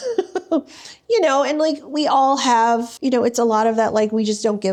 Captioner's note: laughing